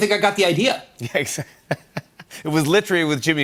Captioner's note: laughs